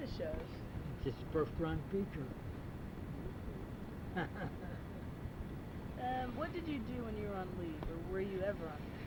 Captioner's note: laughs